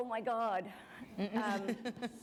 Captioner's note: chuckle